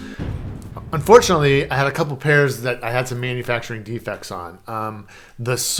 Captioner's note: thunder rumble